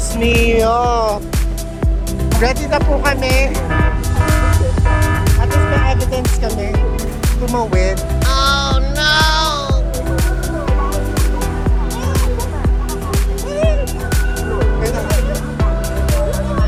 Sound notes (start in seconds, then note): 3.2 warning SFX; 8.4 oh no SFX; 12.3 foreign; 12.4 traffic noise; 13.8 foreign; 14.0 traffic noise